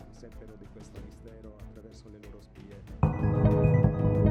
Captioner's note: dramatic music continues; speaking in foreign language; upbeat music